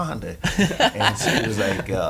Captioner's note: laughing